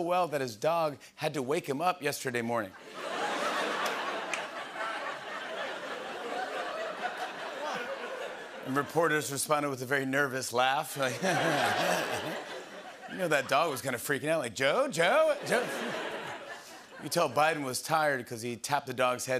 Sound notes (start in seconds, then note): 2.8 laughter; 11.1 laughs lightly